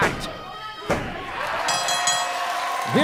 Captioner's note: bell ringing